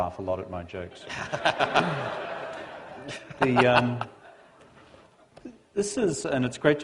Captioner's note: laughter